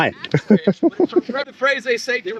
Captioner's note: laughter